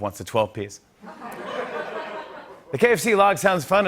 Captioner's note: laughter